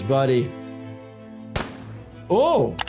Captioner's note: gun booms